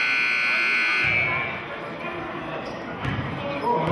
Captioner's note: buzzer sounding